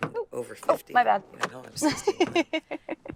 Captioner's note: door handle clicks; lock clicks; Georgia laughs